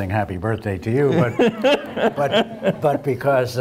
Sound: laugh

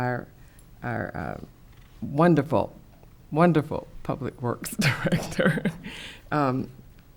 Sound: chuckles

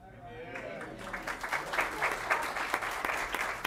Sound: applause

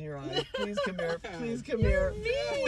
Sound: laughs

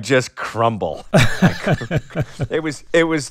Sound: laughter

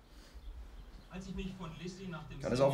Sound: TV chuntering

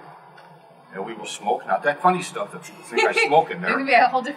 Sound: laugh

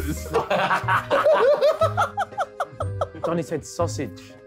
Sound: all laughing

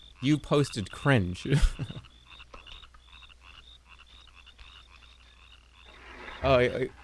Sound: chuckles

